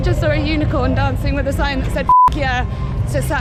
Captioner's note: beep